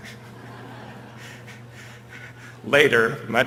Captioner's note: laughter